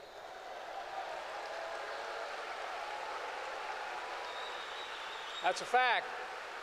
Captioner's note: applause